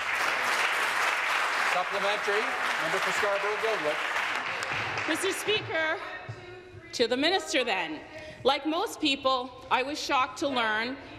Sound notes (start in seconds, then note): 3.2 applause